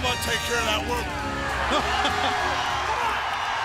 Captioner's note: crowd cheering